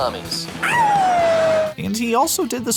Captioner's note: howling